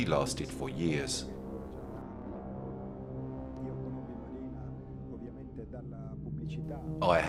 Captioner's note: dramatic music continues; speaking in foreign language